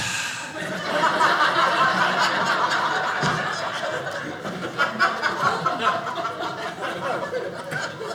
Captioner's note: audience laughing